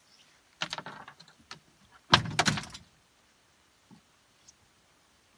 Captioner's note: fishing rod clatters